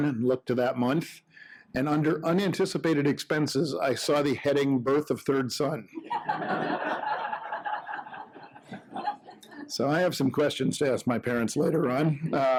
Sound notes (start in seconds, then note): 6.0 audience laughing